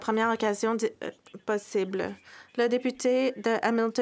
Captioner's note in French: voix de l'interprète